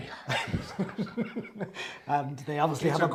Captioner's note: laugh